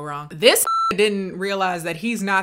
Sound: beep

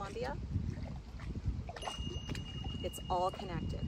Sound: bells chiming

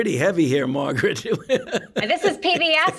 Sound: laughs

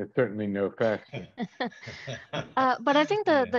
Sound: laughing

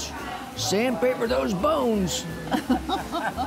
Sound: laughter

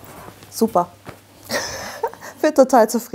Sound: she laughs

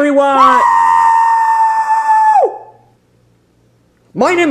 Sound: Bowser screaming

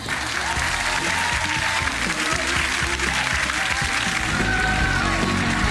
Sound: clapping and cheering

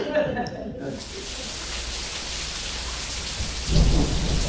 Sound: the sound of thunder and rain

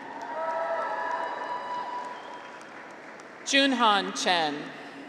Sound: graduates cheer

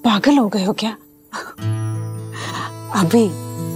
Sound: laughing

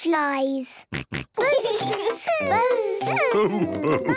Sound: both buzzing

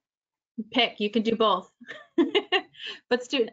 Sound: laughs

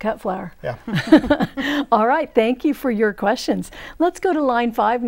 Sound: laughing

